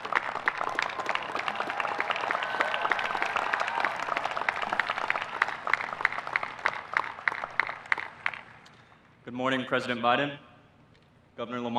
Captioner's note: applause